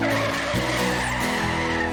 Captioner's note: tires Squealing